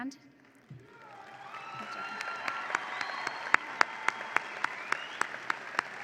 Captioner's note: audience applauds and cheers